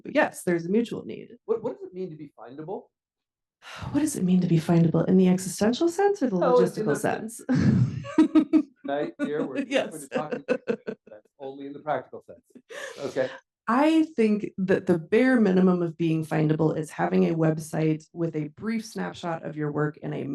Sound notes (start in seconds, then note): 8.8 laughs; 9.3 faintly speaking